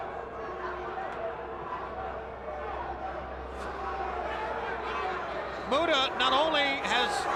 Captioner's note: crowd chatter